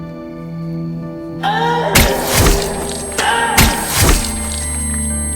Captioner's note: Caroline moaning